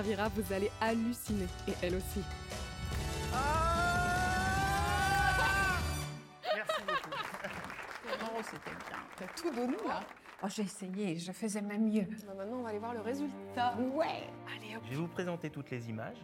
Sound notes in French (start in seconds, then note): 3.3 Elle imite son cri; 3.3 cri de joie; 6.4 rires